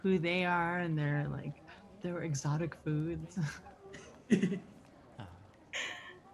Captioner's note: laughs